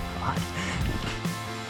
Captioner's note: laughing